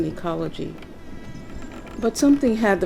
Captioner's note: mosquito buzzing